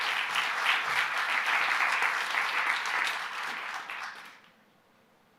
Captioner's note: applause